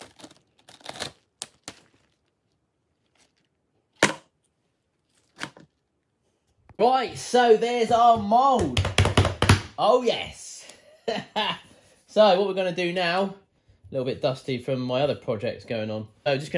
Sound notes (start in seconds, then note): 3.9 plastic dropping